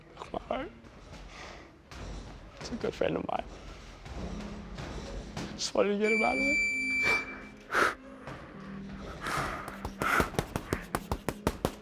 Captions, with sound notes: Broke my heart, he's a good friend of mine. I just wanted to get him out of there. (loud beep) (crying)